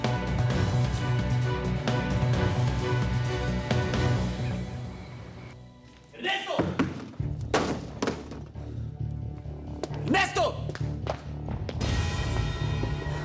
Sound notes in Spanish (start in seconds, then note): 7.5 portazo